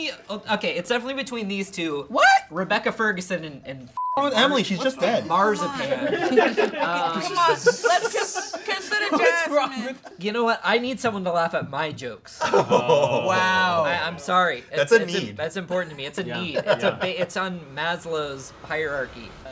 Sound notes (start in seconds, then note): 3.9 beep; 6.6 crew laughs